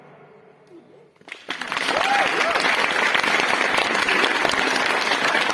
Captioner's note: applause